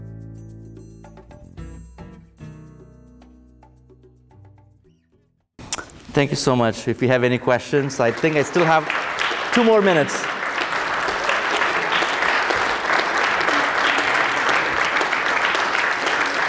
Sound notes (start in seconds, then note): 10.0 applause